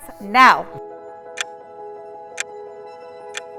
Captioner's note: clock ticking